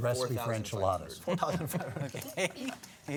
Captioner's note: laughs